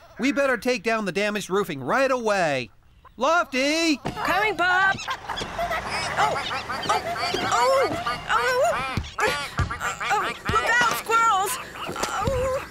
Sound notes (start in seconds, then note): 5.3 squirrels Chattering